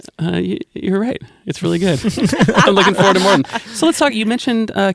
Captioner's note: laughter